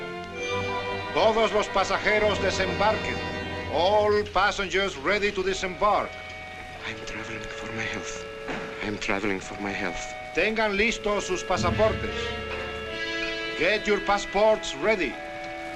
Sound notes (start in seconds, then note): 1.0 man speaking spanish; 10.3 man announcing in spanish